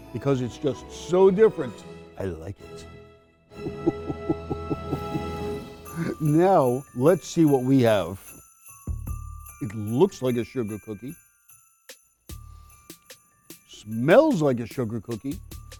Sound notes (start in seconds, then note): 3.6 chuckles